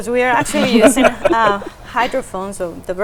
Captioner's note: chuckling